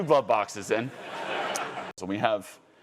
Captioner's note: audience laughing